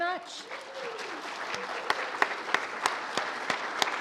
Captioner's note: audience applauds